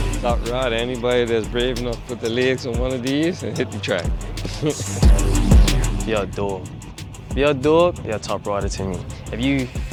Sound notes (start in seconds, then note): 4.5 chuckles